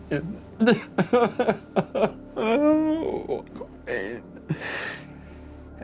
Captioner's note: sobbing